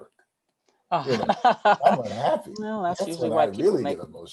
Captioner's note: laughs